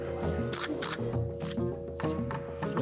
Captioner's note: lively music; shutter snapping